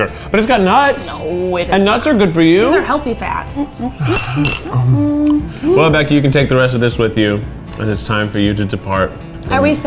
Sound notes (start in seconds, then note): 3.7 eating heartily